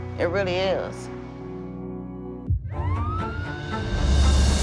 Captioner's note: police sirens